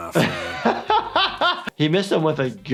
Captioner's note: laughs